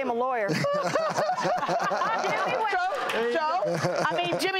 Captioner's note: laughter, shouting